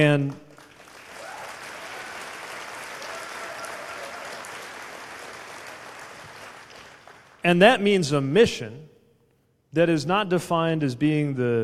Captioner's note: cheers/applause